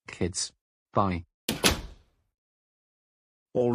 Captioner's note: door closes